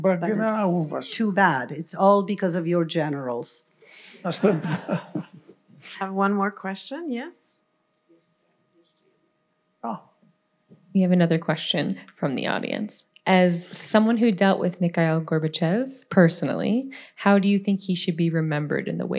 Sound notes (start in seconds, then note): 4.2 laughter